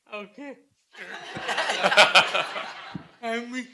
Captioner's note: laughter